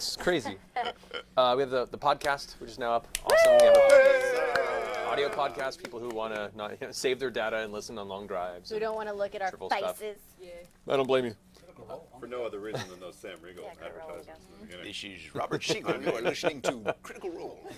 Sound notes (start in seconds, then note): 3.2 cheering